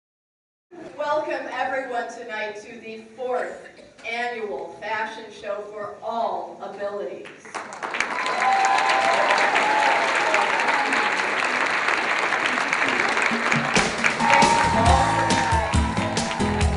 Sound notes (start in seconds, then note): 7.5 applause and cheering; 13.0 cheerful music